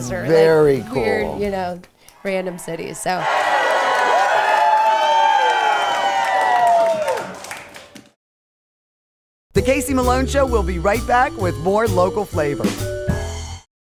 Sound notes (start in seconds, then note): 2.4 crowd cheering